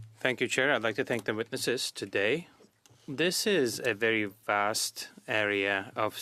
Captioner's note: speaking French